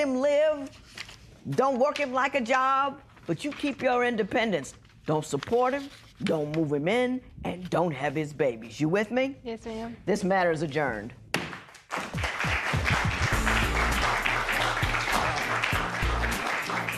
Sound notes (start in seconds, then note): 11.6 applause